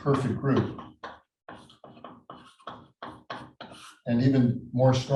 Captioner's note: chalkboard tapping loudly